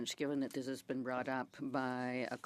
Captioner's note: speaking French